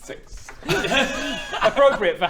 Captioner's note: laughs